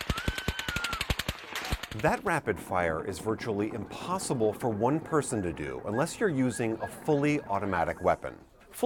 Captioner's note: gunfire